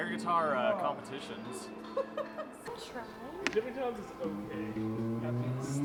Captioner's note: deep Voice 2; instrument playing